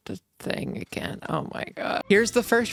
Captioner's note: tired voice